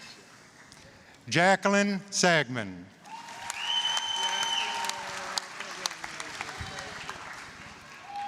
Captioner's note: applause, cheering